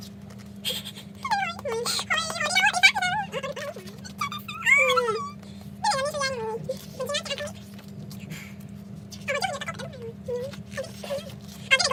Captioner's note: cries